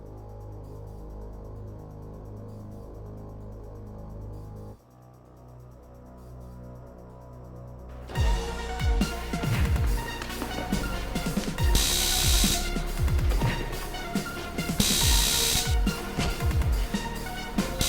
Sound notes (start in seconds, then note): 8.5 dramatic music; 12.1 taser crackling